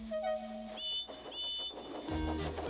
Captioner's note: toot toot